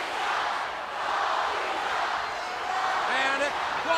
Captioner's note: crowd cheering